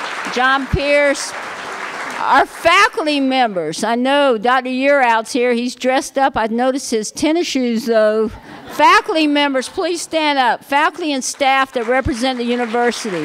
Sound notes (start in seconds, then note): 8.4 laughter